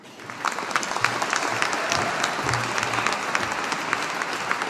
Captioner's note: audience applauding